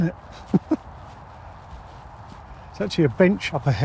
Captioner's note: laughing